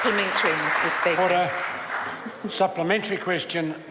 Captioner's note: members applaud